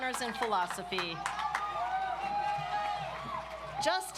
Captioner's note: audience applauds